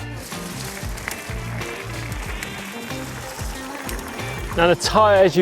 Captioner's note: stones rustling; relaxing lounge music